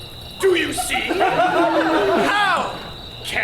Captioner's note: audience laughs